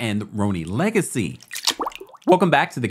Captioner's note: water dropping